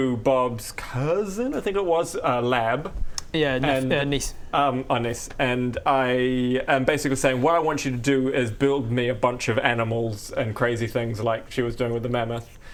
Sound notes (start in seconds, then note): none